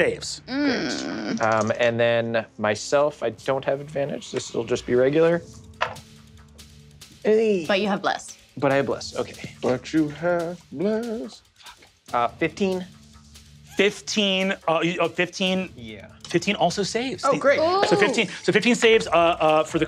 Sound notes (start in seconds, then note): 5.5 dice rolling